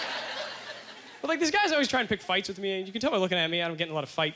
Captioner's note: audience laughter